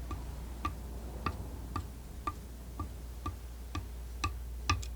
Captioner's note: scratching